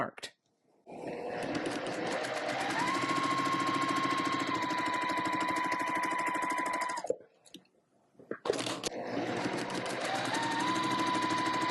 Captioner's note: sewing Machine Noises